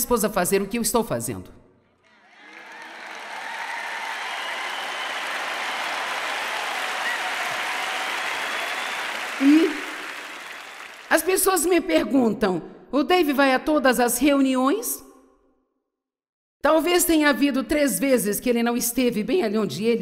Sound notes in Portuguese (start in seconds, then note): 2.0 audiência aplaude